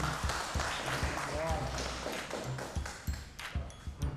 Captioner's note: applause